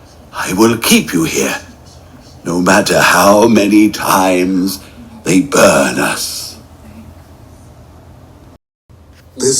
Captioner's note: whispering